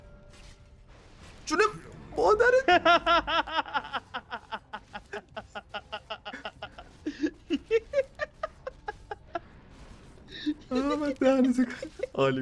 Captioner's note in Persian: خنده